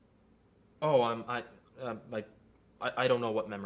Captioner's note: Memory Guide stutters